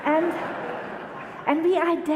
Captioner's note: audience laughter